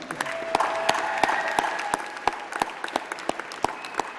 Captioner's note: applause